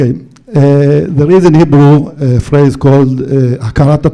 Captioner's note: foreign language